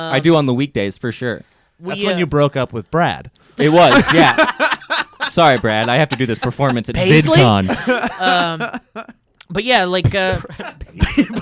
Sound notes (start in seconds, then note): 3.6 laughing